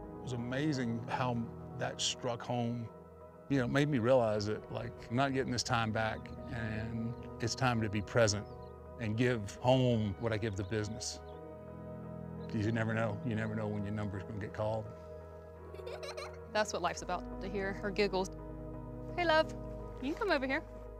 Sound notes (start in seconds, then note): 15.7 little girl giggling